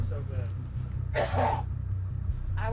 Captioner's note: coughs